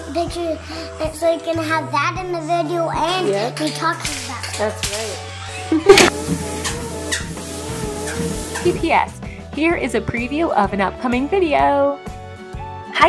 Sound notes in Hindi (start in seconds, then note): 5.7 गिगल्स